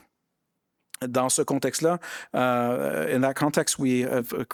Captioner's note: speaking in French